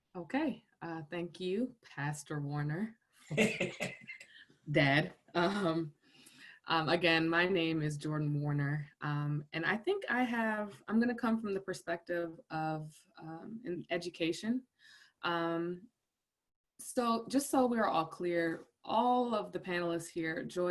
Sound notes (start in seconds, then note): 3.3 laughs